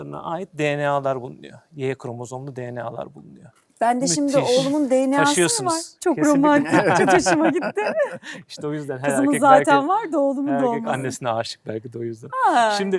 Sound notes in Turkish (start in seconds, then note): 6.3 kahkaha